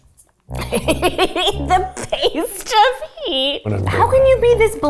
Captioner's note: laughing